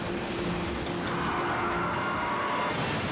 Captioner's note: fast-paced music; tires screech; crash roars